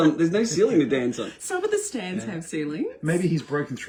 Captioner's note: laughter